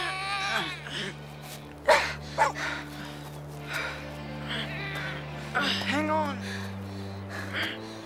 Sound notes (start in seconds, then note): 1.8 panting